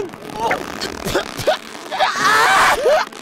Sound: trying to spit and scream through the ropes

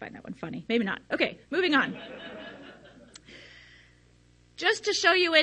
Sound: audience laughs

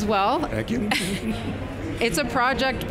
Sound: chuckles

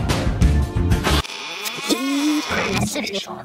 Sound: box squeaks

